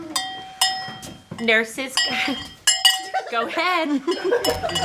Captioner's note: bell